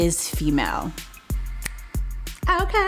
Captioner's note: snaps fingers